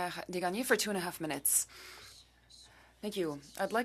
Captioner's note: speaking French